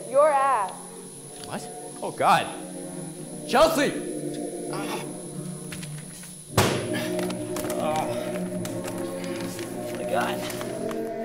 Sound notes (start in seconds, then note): 0.0 voiceover; 1.3 hissing; 6.9 ripping; 10.9 panting